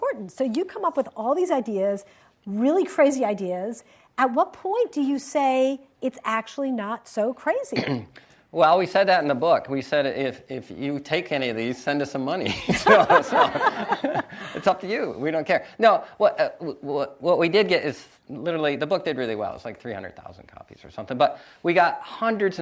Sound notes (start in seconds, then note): 12.6 audience laughs